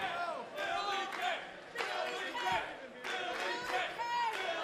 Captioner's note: fans chanting